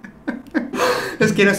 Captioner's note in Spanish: risas; suspiro